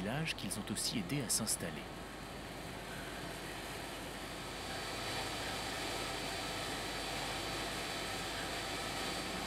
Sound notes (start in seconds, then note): 2.6 machine noises